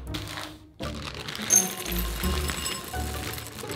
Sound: chips dropping

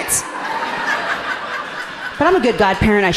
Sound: audience laughing amusingly

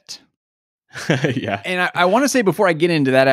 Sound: chuckles

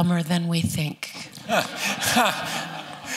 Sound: laughter

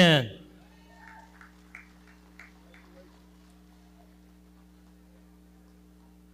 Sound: audience clapping

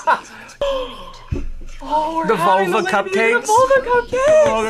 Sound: laughs; gasps

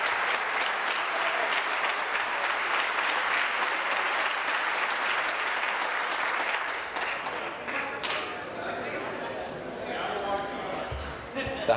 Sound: applause

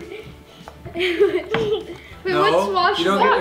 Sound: laughs

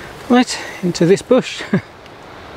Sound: laughs

